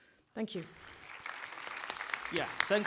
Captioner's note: applause